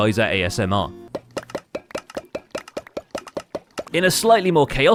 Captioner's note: droppers firing; rapid item pickup sounds